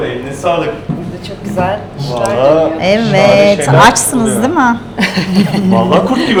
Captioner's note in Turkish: kahkaha